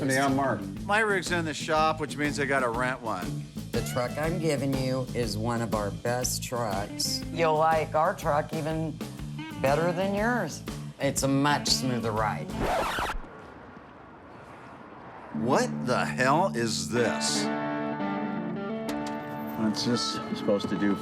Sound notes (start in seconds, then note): 12.4 record scratching